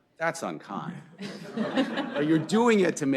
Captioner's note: laughter